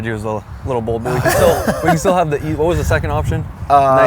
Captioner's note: laughs